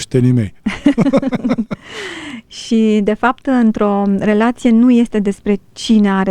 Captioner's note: laughter